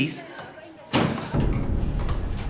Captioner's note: locker door slams